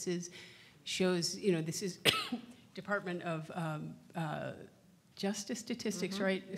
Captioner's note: coughs